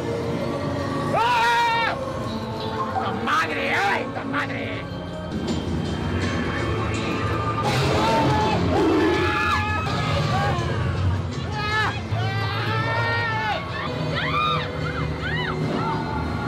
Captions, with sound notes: (screams) La madre. Ay la madre. (growling) (screams)